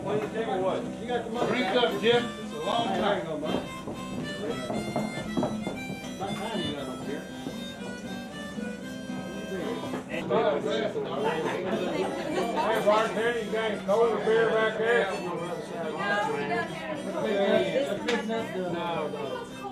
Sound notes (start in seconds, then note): 3.9 harmonica music; 3.9 people chattering; 8.6 harmonica music; 8.6 people chattering